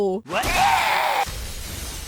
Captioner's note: Kuradeel screams in pain; death SFX